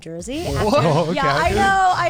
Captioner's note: guys laughing in disbelief